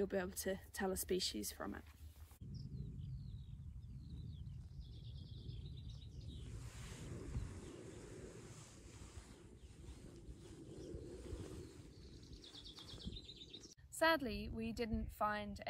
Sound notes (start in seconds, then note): 3.1 birds tweeting